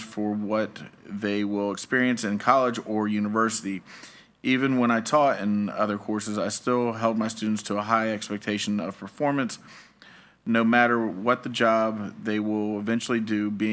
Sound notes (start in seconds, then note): none